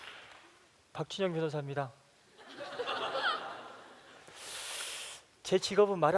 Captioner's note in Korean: 웃음